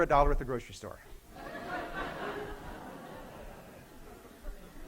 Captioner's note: laughing and clapping